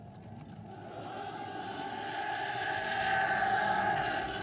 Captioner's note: yelling